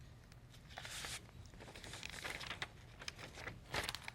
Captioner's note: papers rustling